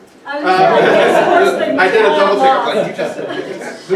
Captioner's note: laughter